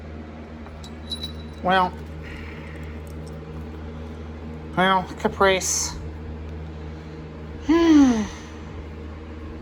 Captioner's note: Caprice sighs